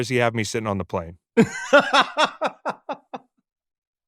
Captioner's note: laughs